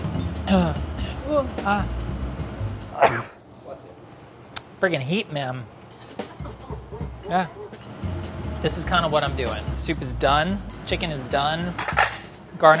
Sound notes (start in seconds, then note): 2.9 sneezes; 5.9 laughing